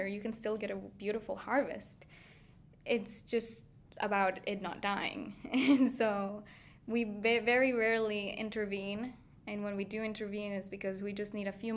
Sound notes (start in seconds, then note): 4.9 laughing